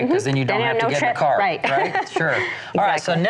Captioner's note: laughs